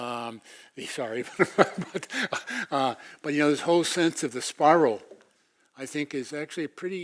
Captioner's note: laugh